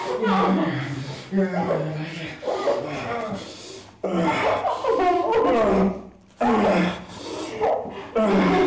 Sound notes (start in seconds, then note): 3.1 grunts; 4.1 Linda sobs hysterically